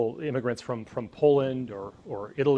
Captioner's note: none